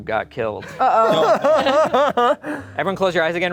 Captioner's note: laughing